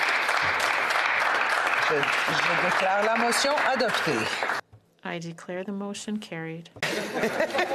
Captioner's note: applause